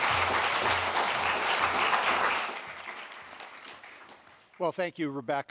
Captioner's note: applause